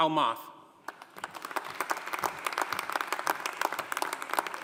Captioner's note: audience applauding